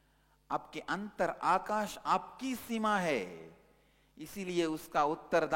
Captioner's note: hindi